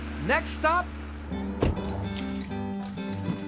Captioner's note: door closes